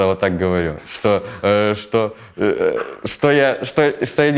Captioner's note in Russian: Оператор давится смехом